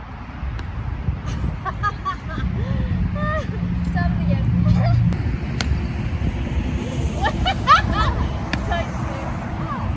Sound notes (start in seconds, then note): 1.3 laughs loudly; 4.0 laughs; 7.0 more loud, joyful laughs